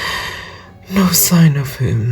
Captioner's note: sighs